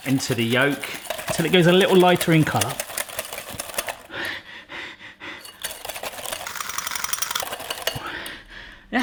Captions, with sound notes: into the yolk 'til it goes a little lighter in colour. (pants) (whisk rattles)